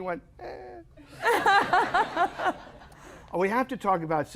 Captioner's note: laughter